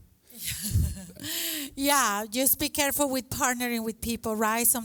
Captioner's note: laughs